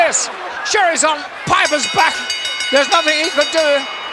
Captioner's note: bell ringing